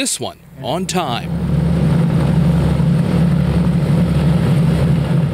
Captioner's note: airplane rumbling